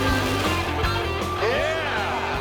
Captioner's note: engine roaring